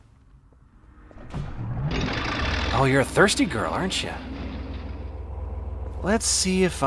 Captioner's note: engine starts